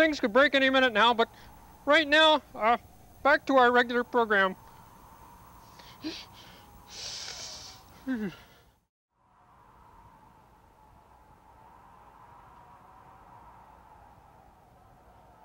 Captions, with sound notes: Things could break any minute now, but right now, back to our regular program. (Kermit shivers)